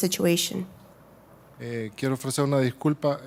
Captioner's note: speaking Spanish